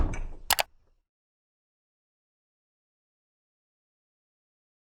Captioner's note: typewriter key clicks